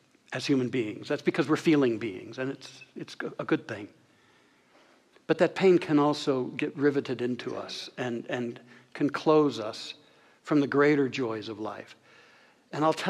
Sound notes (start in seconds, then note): none